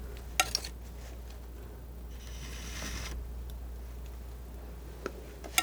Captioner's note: scratching